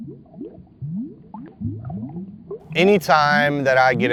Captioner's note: water bubbling